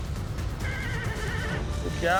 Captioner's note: horse neighs